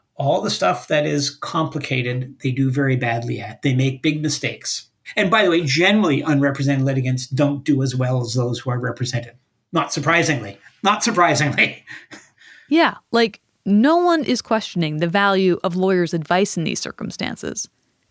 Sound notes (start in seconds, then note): 11.1 laughs